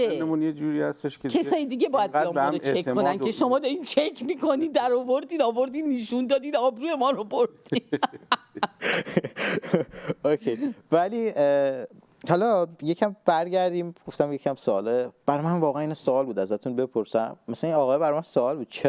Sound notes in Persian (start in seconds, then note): 7.7 خنده; 9.0 صدای بند آمدن نفس